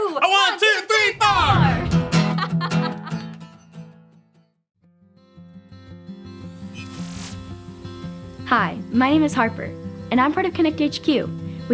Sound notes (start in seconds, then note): 1.6 upbeat guitar strumming; 2.2 laughing; 6.8 sci-fi music